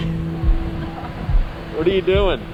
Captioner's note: laughs